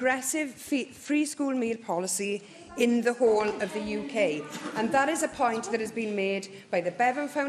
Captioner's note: laughter